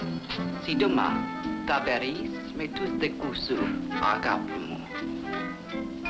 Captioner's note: speaking in foreign language